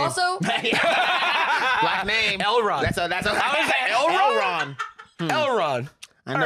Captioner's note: laughs